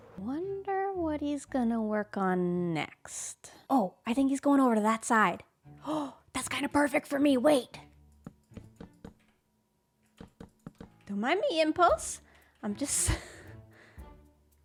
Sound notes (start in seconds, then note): 5.7 gasps; 13.5 laughs